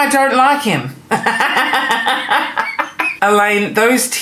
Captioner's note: laughing